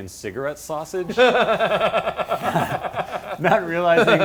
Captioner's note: laughing